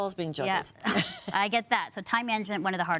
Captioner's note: laughs